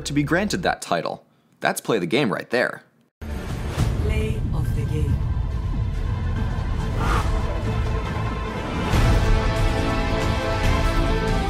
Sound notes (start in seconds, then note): 3.4 Overwatch-esque announcer voice